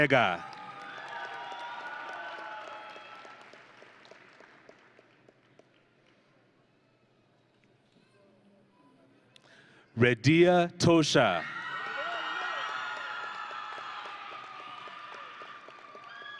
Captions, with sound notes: (audience and graduates cheering) Rediya Tosha. (audience and graduates cheering)